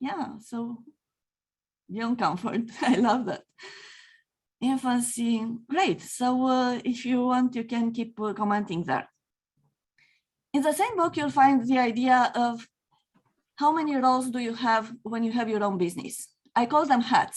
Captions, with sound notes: Yeah. So, beyond comfort [chuckles] I love that. Infancy, great. So if you want, you can keep commenting there. In the same book, you'll find the idea of how many roles do you have, when you have your own business.